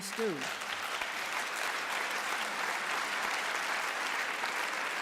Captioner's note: applause